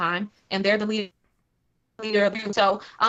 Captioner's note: technical interference